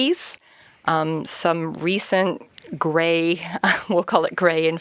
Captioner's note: chuckles